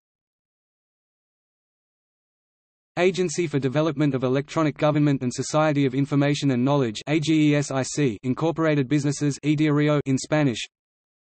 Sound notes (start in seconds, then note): 1.9 in Arabic; 9.2 in Hebrew